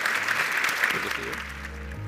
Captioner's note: applause